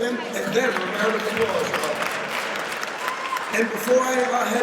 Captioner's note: audience applauds